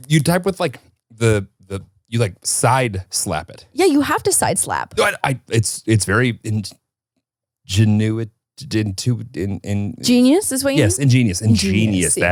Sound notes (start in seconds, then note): 6.1 stuttering